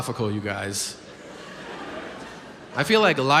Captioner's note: audience laughs